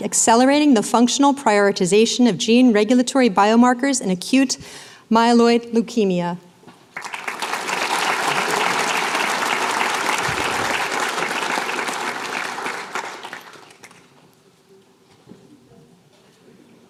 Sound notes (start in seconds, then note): 6.9 applause